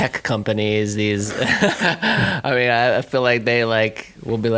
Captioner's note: he laughs